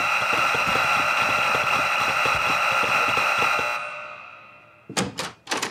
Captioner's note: buzzing many times